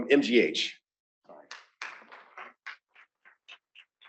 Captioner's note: applause